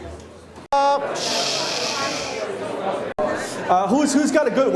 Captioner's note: shushes the audience